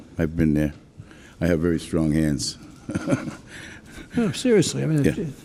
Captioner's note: laughs